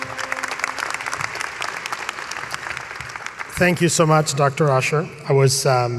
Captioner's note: applause